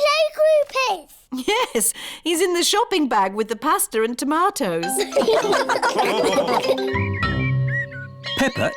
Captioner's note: all laugh